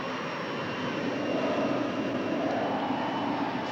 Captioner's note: wind whooshing